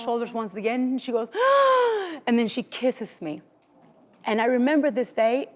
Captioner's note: gasping